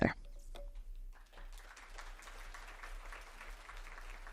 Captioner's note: audience clapping